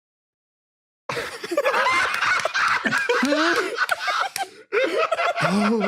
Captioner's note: laughs